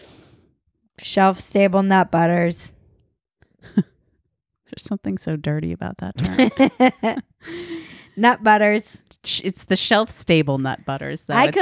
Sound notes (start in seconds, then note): 6.2 laughs loudly